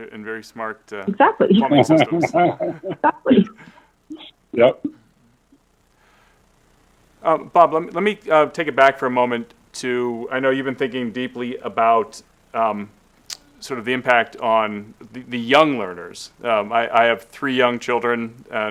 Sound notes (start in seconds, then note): 3.1 laugh